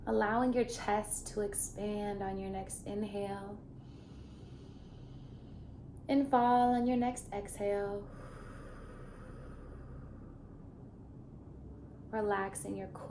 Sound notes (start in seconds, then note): 3.9 inhaling; 8.0 exhaling